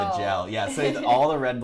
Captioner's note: laughs